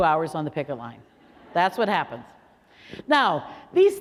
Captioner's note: laughter